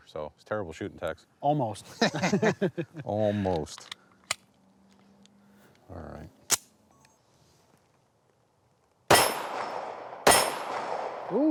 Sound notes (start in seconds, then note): 1.9 laughs; 4.3 gun clicks; 9.1 gun banging